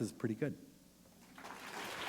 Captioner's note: applause